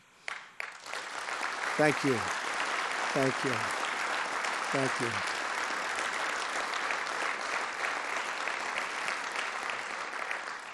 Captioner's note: applause